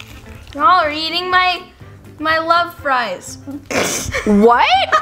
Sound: laughs

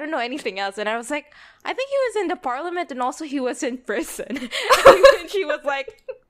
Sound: both laugh

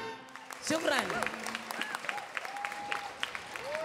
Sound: applause

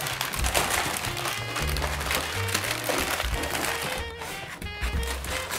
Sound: wrapping paper crinkling

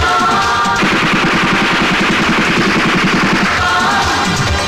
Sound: rapid gunfire

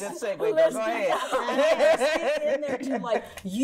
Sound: laughs

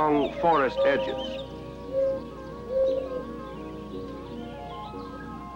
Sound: mourning dove sounds

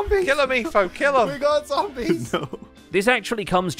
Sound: laughs

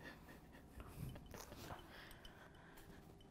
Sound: laughs

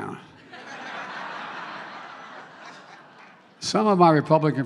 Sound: laughter

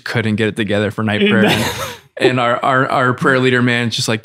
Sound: Father Innocent laughs

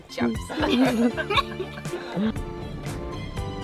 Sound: laughter

